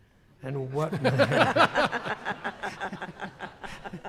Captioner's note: laughter